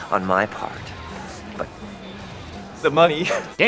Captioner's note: laughing